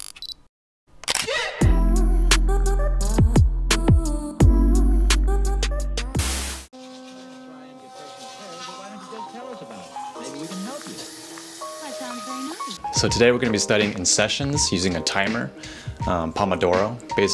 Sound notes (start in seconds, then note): 1.0 camera clicks; 2.6 electronic music